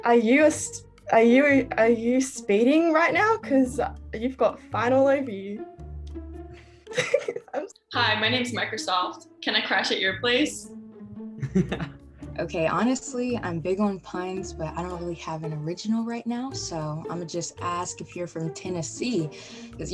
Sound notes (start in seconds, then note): 6.9 giggles; 11.5 laughs